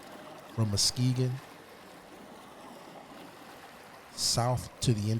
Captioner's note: water burbling